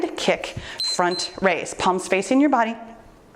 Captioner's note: timer beeps